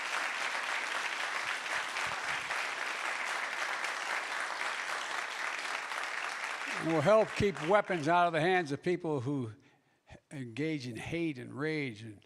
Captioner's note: applause